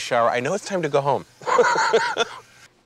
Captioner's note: laughs